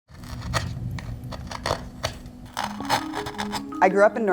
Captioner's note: wood scraping; upbeat music